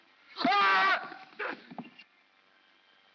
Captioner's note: Stan screams